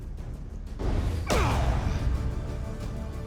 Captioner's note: grunting